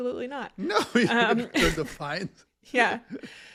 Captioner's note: laugh